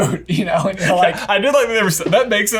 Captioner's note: laughs